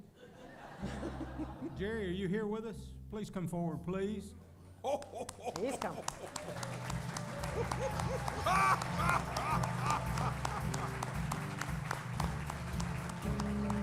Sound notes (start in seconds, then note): 5.1 laughter; 5.2 applause; 6.0 laughter